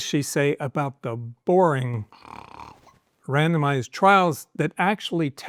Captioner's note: snores